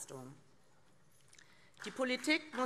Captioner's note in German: Beifall